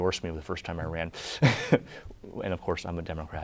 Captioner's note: laughter